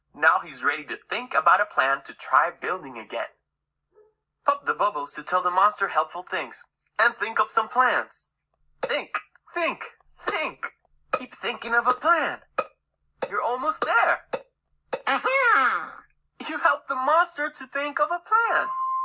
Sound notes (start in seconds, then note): 15.3 moans